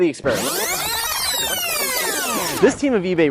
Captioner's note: tape rewinding